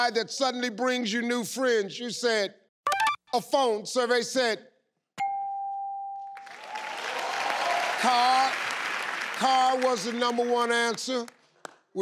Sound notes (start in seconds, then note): 5.2 bell chimes; 6.4 audience applause